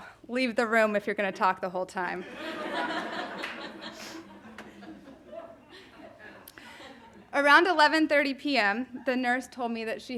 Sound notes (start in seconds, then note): 2.2 audience laughing